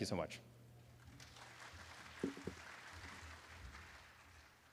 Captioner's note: applause